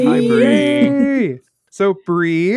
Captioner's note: cheering